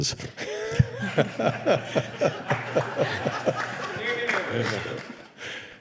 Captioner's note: laughter